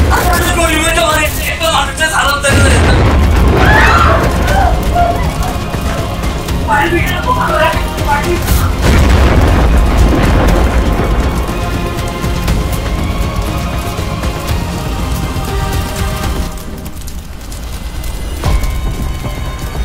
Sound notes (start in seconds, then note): 3.4 screaming